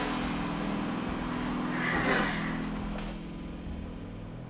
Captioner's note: grunts